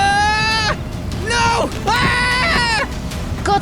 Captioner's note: screams; grunting